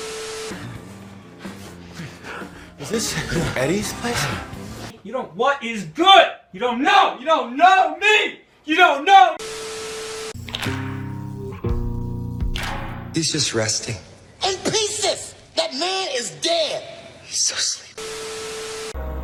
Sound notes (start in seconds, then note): 1.2 gross panting noises